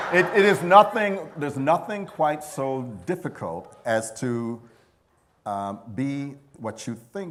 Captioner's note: laughter